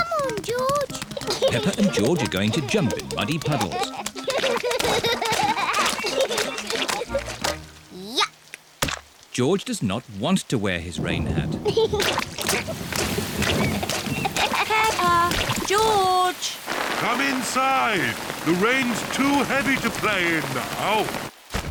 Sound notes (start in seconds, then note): 1.3 giggles; 4.5 both giggling; 10.8 thunder rumbling; 11.8 giggling